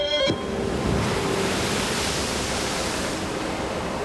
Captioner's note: rushing water